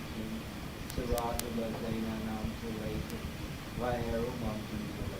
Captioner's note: speaking in foreign language